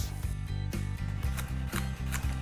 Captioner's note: chopping